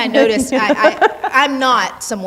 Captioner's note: laughing